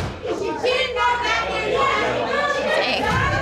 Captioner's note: women continue arguing